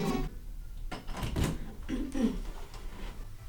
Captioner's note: door opens